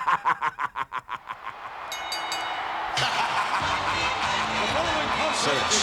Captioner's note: laugh